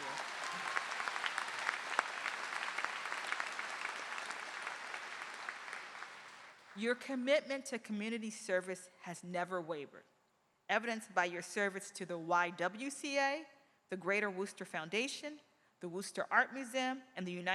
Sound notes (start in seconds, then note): 3.7 applause